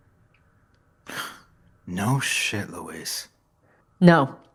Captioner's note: sigh